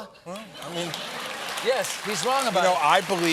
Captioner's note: applause